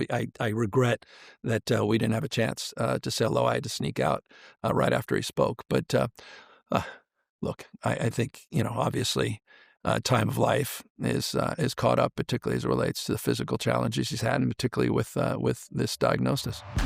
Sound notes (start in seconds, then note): 5.8 sighs